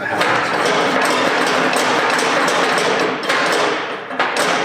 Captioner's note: metal clanging